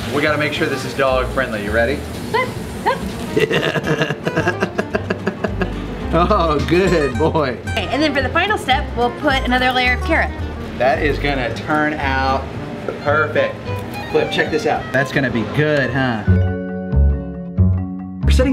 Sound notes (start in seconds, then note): 2.8 dog yips; 3.3 laughs heartily; 16.4 spooky music